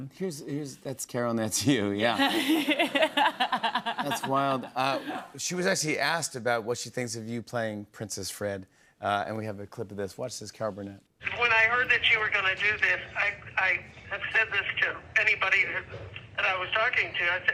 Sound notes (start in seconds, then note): 2.2 laughs